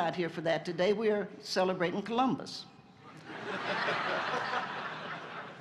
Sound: laughter

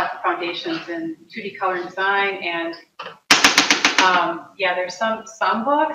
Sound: tapping spatula

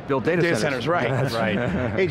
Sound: laughter

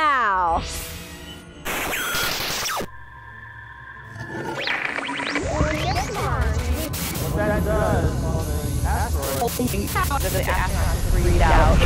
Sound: sound Effects

